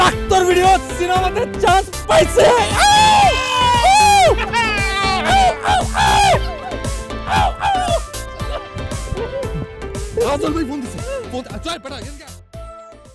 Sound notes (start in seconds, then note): 2.3 applauses and celebrates